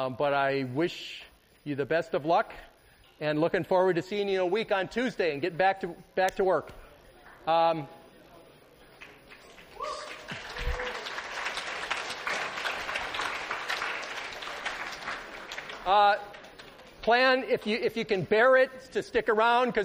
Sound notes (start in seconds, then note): 8.9 applause